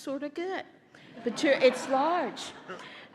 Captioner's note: laughter